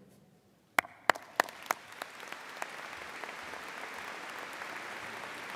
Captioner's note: audience applauding